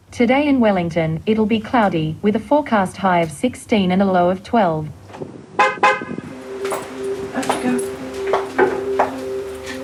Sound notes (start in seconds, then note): 5.6 car horn beeps